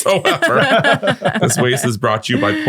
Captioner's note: all laughing